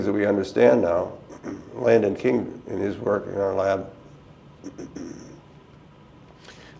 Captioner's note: clears throat